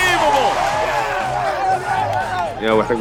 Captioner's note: team cheering